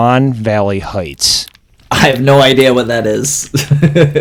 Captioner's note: laughs